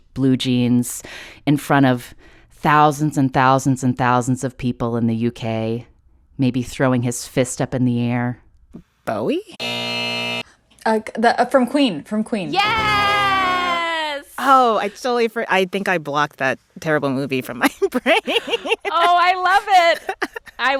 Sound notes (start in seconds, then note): 9.6 soundbite of buzzer; 17.6 laughter